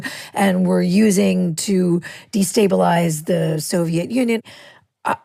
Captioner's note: none